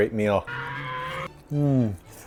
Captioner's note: dino screech